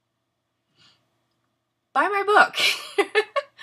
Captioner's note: laugh